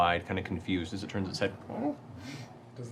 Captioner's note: inquisitive sound